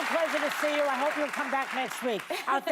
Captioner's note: applause